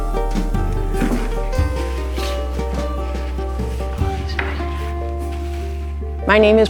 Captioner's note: drawer opening, rustling